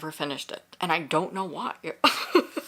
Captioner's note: laughs